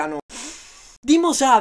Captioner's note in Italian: inspira